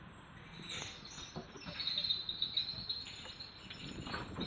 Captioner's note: squeaking pulley